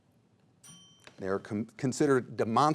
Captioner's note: bell tings